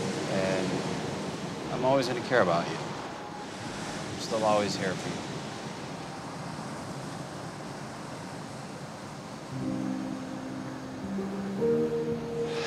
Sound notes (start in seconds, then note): 5.6 waves crashing